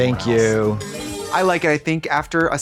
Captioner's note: bright chime